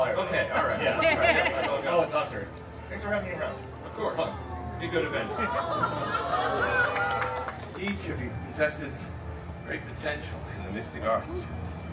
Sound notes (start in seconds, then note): 0.4 guests laughing; 5.6 guests expressing a collective “Awe!”